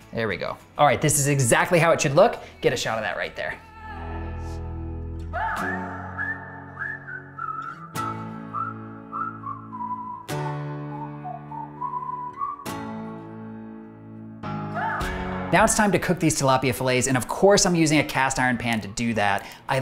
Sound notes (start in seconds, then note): 5.5 whistling; 6.3 gentle, upbeat music